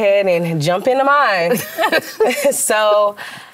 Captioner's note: laughter